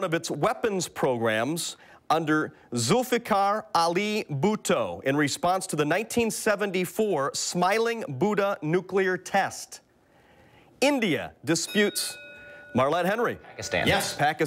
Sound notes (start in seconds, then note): 11.5 bell rings